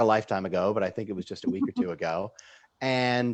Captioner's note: chuckling